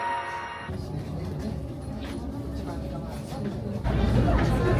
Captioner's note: crowd murmuring